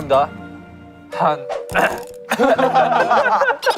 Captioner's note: ahem